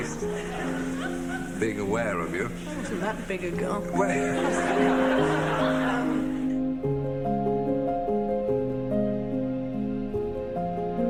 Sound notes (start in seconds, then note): 4.7 laughs; 5.2 audience laughing